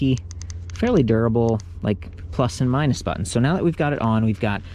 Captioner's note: clicks